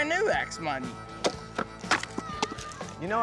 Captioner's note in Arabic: التقطيع